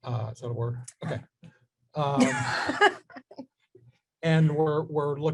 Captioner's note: laughs